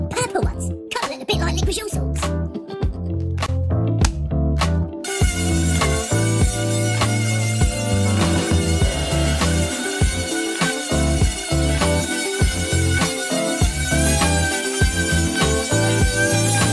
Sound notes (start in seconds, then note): 5.4 cheerful music continues; 5.4 tool buzzing